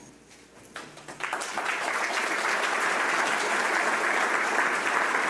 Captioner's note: audience clapping